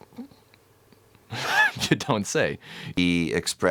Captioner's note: laughs